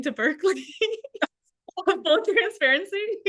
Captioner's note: laughter